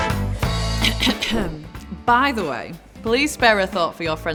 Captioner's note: clears throat